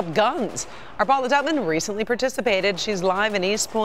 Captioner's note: gunfire